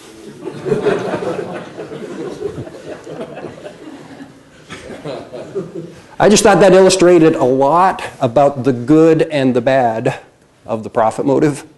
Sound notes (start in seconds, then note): 0.3 laughter